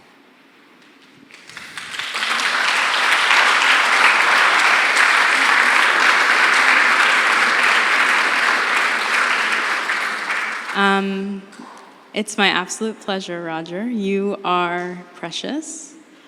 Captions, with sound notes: (audience applauding) - It’s my absolute pleasure, Roger. You are precious.